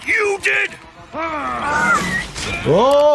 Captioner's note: Invincible groaning; air whistling